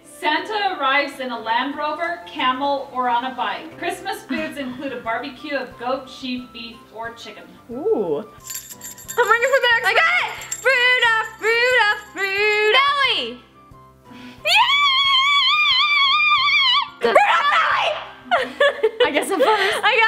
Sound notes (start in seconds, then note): 8.4 bell tinkling; 14.6 celebratory scream